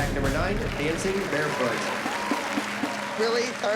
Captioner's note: applause